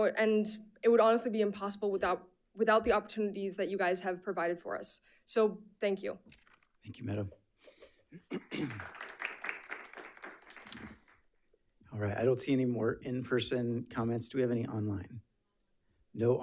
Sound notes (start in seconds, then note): 8.2 attendees applauding